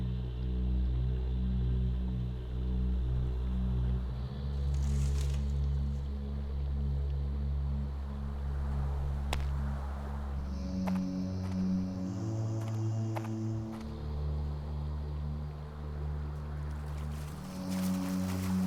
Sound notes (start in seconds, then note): 5.6 timber creaking; 9.5 mysterious music